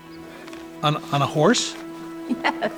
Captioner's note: laughs